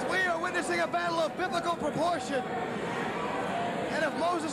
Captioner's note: cheers and applause